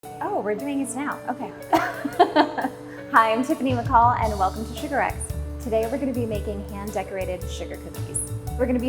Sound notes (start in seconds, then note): 1.8 laughs